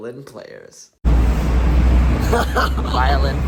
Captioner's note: laughs